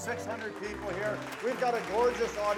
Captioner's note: audience applauding